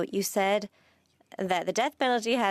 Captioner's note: speaking French